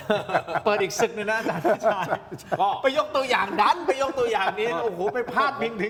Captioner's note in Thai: เสียงหัวเราะ